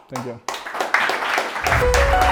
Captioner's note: audience clapping; lively music